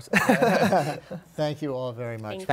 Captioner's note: laughter